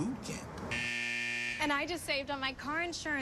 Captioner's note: buzzing